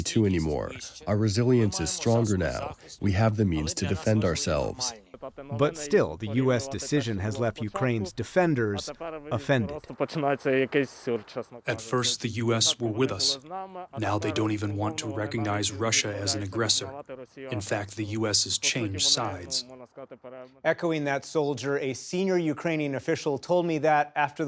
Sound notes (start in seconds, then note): 0.0 through translator; 12.5 through translator